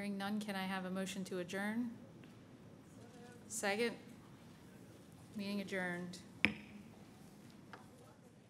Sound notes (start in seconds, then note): 6.4 gavel bangs